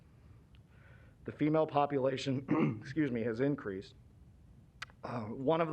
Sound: clears throat

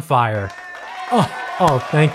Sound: canned applause

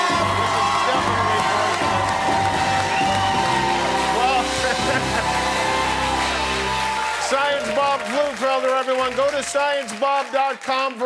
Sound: cheers and applause

